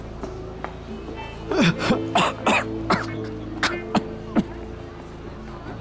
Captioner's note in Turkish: Öksürme sesi